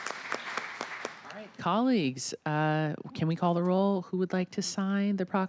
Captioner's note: applause